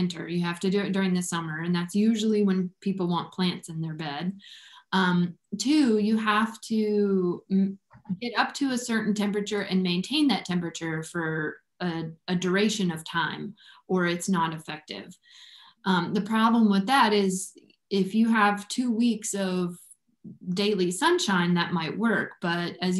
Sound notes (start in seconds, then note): none